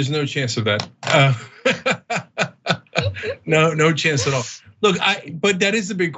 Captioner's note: laugh